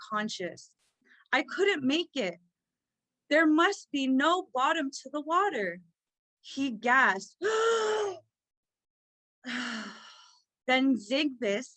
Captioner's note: exhasperated gasp